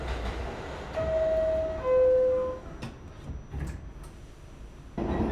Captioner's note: subway dings